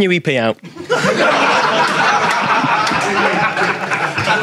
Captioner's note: audience laughing